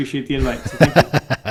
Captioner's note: laughing